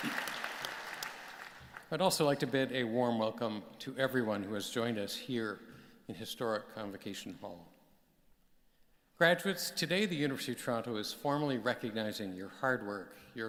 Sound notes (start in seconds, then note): 3.0 applause